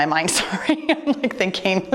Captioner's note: laughing